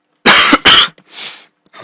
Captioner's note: coughing